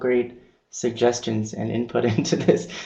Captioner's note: laughing